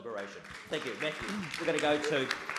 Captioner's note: audience claps